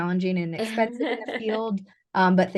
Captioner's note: laughter